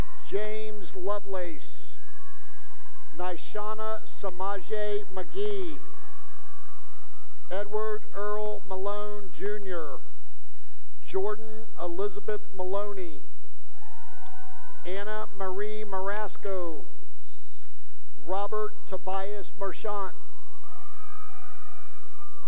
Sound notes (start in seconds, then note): 2.0 cheering; 6.0 cheering; 9.9 cheering; 13.6 cheering; 16.2 cheering and whistling; 19.6 cheering